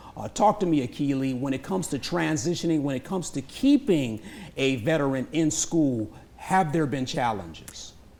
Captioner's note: none